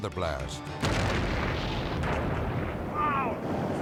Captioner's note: site exploding